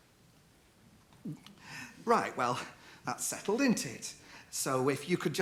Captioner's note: gulps